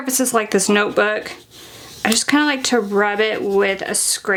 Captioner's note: scraper rubbing